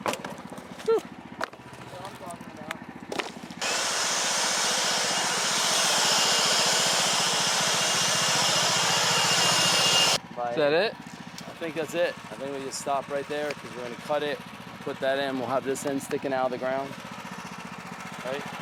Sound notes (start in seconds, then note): 10.5 motor running